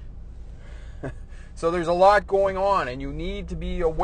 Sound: chuckles

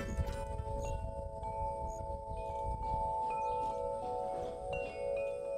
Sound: gentle chiming

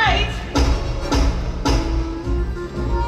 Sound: three knocks

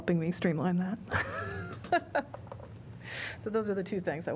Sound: laughter

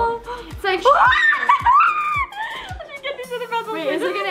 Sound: screaming

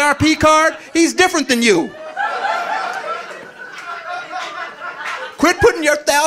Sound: audience laughing

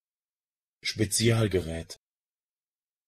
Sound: fast Pronunciation

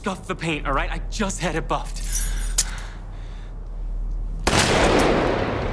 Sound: keys jingle; gun fires

